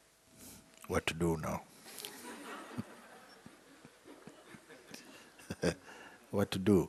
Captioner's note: laughter